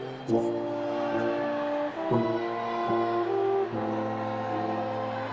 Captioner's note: attendees cheering